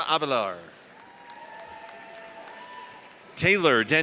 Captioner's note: audience cheers